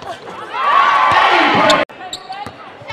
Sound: cheering and applause

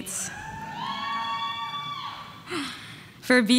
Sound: audience members cheering

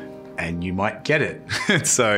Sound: chuckles

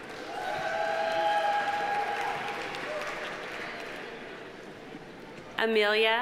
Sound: audience applauding; audience cheering

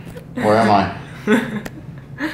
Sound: Hila laughing

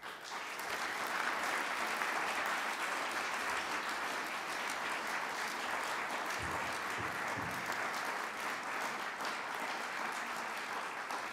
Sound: applause

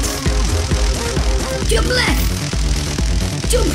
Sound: crackling electricity

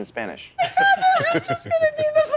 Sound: laugh

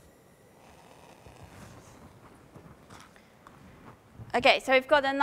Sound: sound of flame burning

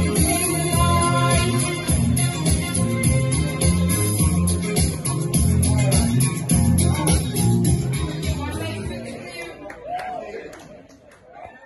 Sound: clapping

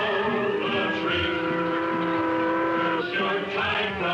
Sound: boat horn

